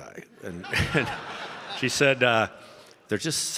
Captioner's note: audience laughing